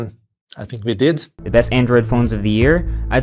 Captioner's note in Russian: Закадровый голос